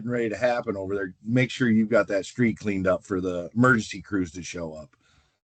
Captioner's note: none